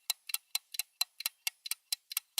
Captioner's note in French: Tic tac d'horloge